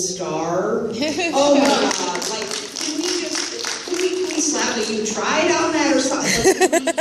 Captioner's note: laughter, applause